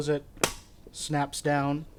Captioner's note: snap